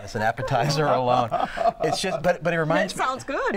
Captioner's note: laughter